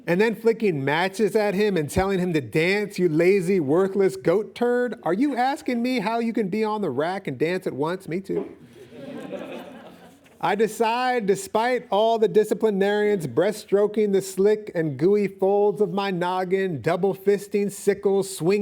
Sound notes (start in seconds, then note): 8.6 laughing